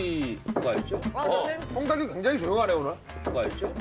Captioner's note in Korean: 똑똑똑